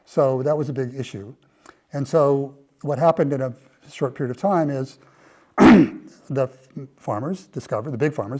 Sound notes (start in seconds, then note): 5.6 cough